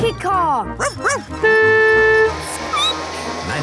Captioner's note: barking; squeaking; honking